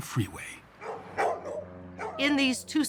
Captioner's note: dog barking